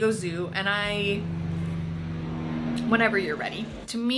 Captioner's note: traffic rumbles